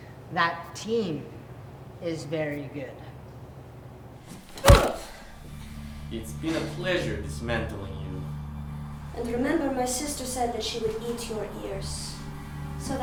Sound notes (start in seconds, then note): 4.4 fist thuds; 4.6 Lada grunts